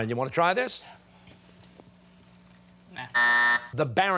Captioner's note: buzzer sounding